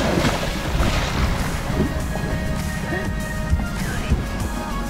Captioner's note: dog splashes in water